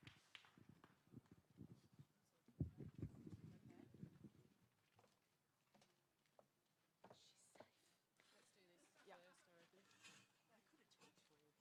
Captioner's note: applause